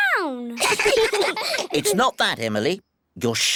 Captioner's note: all giggle